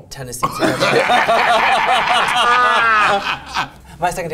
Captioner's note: group laughs